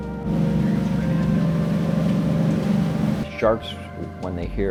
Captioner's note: boat engine rumbling